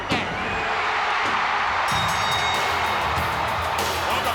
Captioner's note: bell ringing